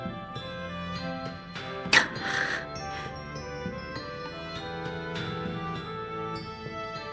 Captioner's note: sigh